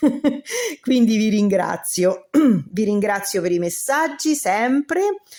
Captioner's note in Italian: risate; schiarire la voce